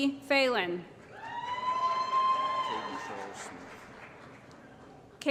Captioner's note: applause & Cheering